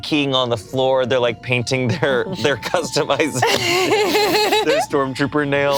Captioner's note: laughs